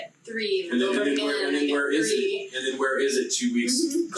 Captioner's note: group chattering